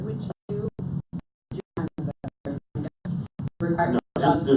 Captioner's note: audio cutting out